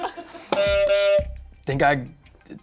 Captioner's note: buzzer goes off